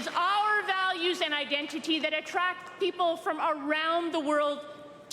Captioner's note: applause